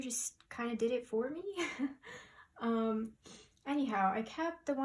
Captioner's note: laughter as I remember